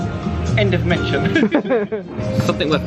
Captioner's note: both laugh